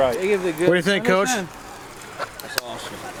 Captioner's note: voiceover